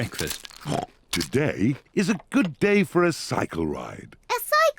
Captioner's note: snorts